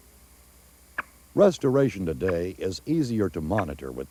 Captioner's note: beeping sound